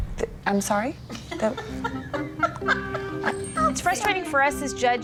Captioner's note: laughter